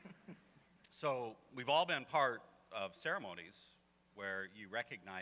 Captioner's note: laughter